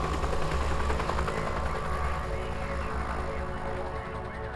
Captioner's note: police radio chatter